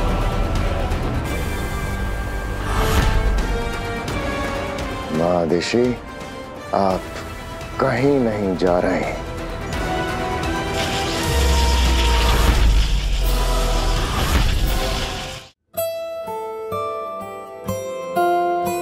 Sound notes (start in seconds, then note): 10.4 sound effect playing